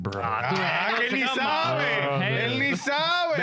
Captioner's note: speaking In Foreign Language